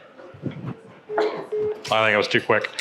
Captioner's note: dial tone beeping